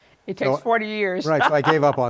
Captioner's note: laughs